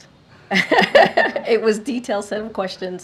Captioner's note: laughter